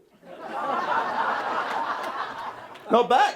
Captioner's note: audience laughing